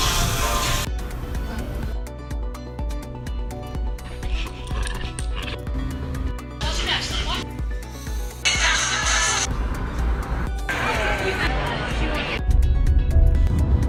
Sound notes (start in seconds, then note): 0.0 sizzling; 1.5 upbeat music; 4.0 growling; 7.0 upbeat music